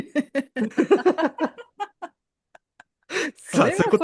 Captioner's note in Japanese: 笑い